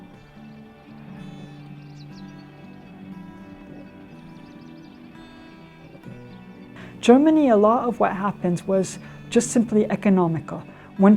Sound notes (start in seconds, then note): 0.3 mellow instrumental music; 2.3 birds singing